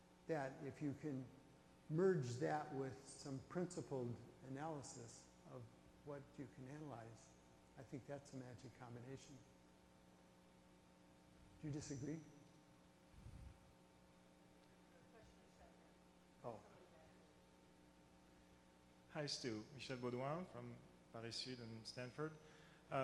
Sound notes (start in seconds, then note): 15.2 voiceover; 19.2 voiceover